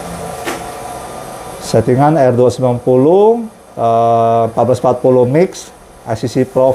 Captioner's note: printer machine noise